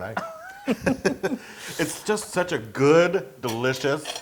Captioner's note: laugh